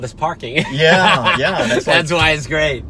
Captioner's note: laughing